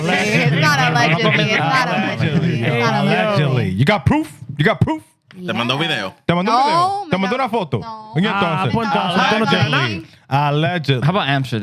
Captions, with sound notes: You got proof? You got proof? (Speaking In Foreign Language) How about Amsterdam?